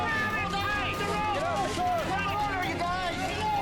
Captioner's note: rescue workers yelling